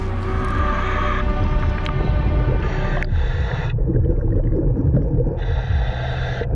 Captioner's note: bird chirping; eerie music continues; mouthpiece hissing; water bubbling